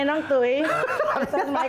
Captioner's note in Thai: เสียงหัวเราะ